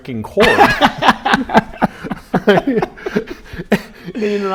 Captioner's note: laughs